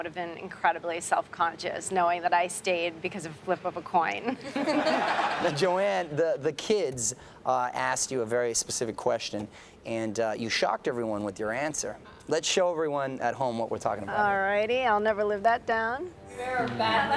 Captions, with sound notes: incredibly self-conscious knowing that I stayed because of a flip of a coin. (everyone laughs) - Joanne, the kids asked you a very specific question and you shocked everyone with your answer. Let's show everyone at home what we're talking about. - Alrighty, I'll never live that down.